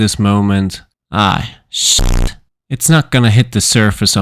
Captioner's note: feedback